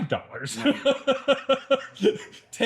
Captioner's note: laughing